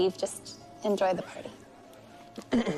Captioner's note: Ben clears throat